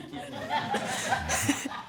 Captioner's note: audience laughs; chuckles